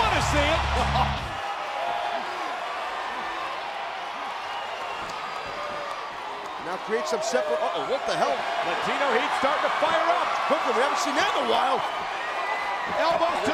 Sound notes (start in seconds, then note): 1.3 Tazz laughs; 2.3 crowd cheering